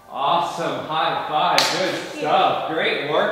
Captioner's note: hands clapping